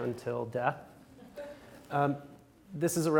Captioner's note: audience laughs